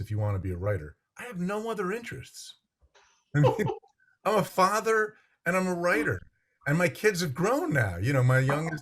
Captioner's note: laughs